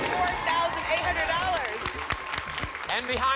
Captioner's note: applause and cheering